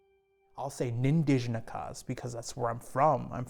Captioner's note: speaks foreign language